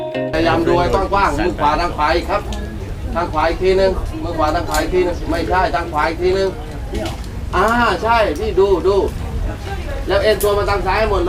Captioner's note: rock climbing guide speaking Thai